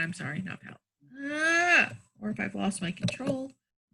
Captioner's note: screams